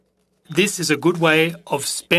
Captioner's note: speaking French